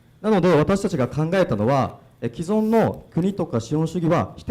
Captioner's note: speaking foreign language